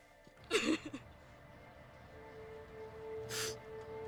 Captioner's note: sobbing